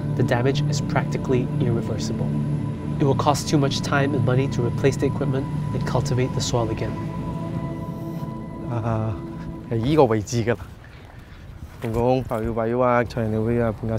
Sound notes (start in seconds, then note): none